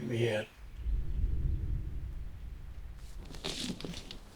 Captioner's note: booming